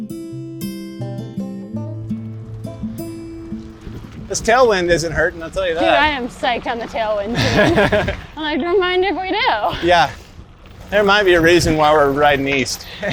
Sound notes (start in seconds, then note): 7.3 laughs